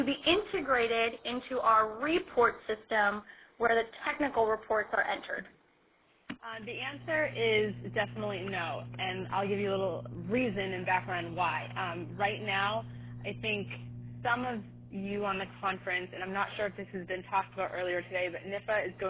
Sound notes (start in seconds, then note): 7.2 voiceover